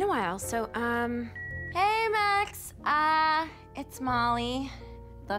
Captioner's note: line beeps